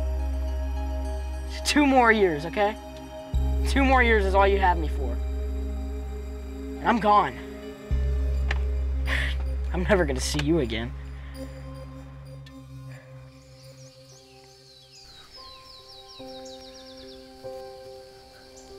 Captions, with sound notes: Just two more years, okay. Two more years is all you have me for. And I'm gone. I'm never gonna see you again. (birds singing)